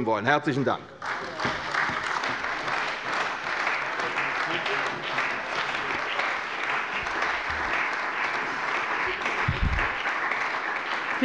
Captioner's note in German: Beifall bei der CDU und dem BÜNDNIS 90/DIE GRÜNEN